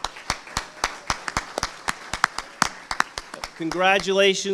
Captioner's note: audience applauding